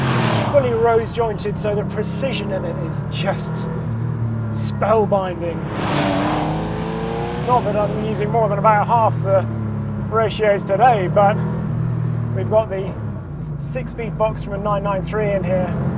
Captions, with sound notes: (engine roars) Fully rose jointed, so the precision in it is just spellbinding. (engine roars) Not that I've been using more than about half the ratios today, but we've got the six-speed box from a 993 in here.